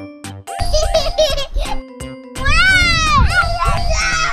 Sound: playful music; baby laughing; children laughing

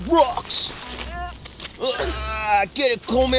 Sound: grunts

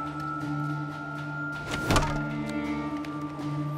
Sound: thudding

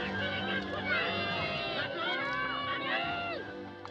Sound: children Shouting

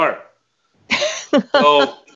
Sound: laughs

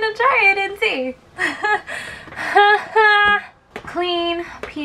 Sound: nervous laughter

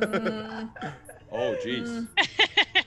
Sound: laugh

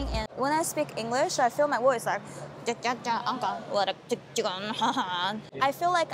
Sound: foreign sounds

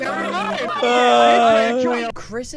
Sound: laughter; sighs

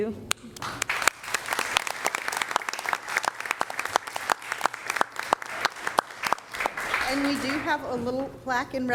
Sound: applause

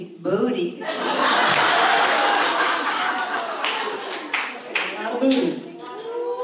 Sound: audience cheers

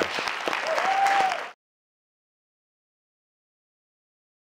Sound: audience cheers

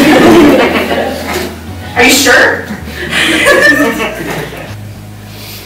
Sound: laughter; laughter

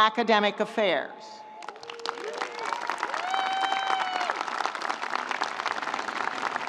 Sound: audience applauding; audience cheering

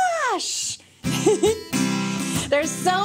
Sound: chuckles

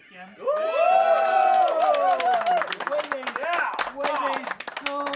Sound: men applauding and cheering

